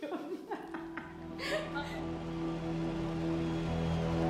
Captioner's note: laughs